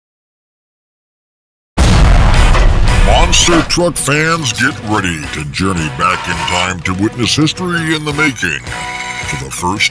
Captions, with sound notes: (explosion) - [Voiceover] Monster truck fans, get ready to journey back in time to witness history in the making.